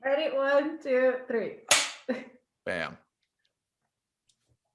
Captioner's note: slate clapping